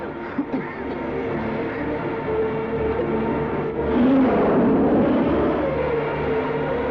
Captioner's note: ominous music; coughing